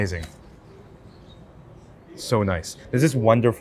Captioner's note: wildlife chirps